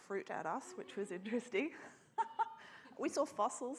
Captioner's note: laughs